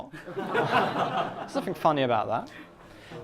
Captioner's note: class laughs